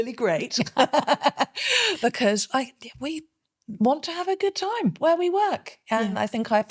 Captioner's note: laughing